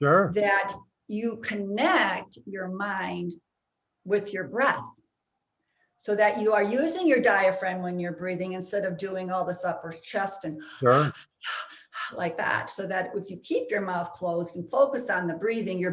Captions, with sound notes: that you connect your mind with your breath. So that you are using your diaphragm when you're breathing instead of doing all this upper chest and (person panting) like that. So that if you keep your mouth closed and focus on the breathing,